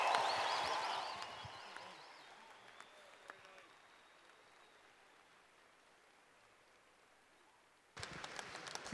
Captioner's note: applause